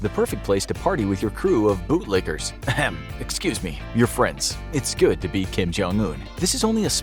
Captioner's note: clears throat